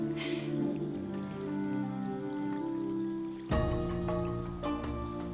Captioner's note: none